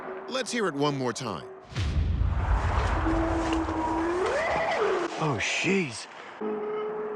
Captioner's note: eerie howl